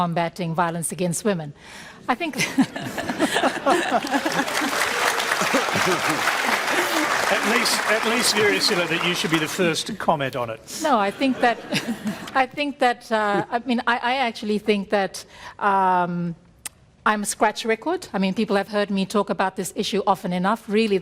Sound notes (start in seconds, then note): 3.3 applause; 3.4 laughs; 10.9 laughter